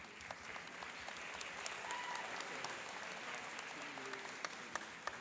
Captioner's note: cheering and applauding